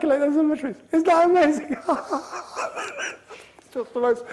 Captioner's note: wheezing